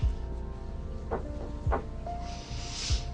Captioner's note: knocking on the door